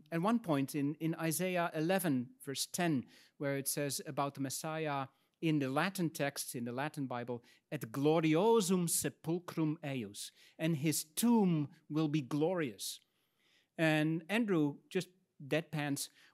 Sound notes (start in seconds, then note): 7.7 speaks in Latin